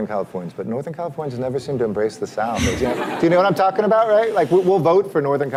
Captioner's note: laughter